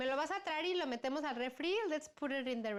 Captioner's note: speaking spanish